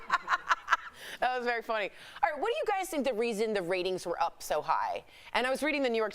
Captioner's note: laughter